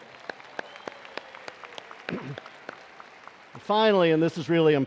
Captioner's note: attendees applauding